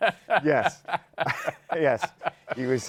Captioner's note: laughs